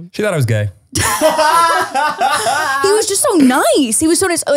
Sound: both laughing

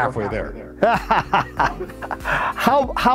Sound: laughs

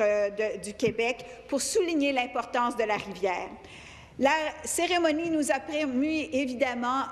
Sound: speaking in French

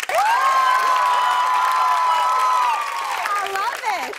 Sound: cheers and applause

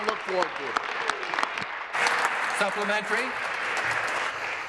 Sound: applause

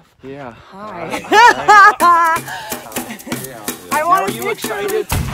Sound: laughing

